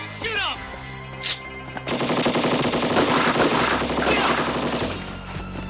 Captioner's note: body thudding; guns firing